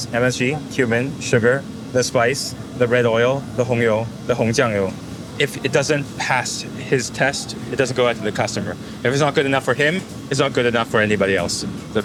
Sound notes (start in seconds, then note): 3.6 speaking in foreign language